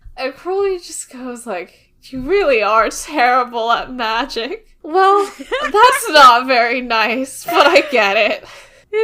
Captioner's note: laughs